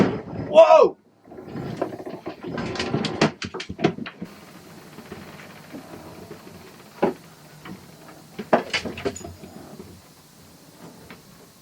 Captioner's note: sailing boat collision impact noise